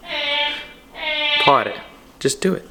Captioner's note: cat meows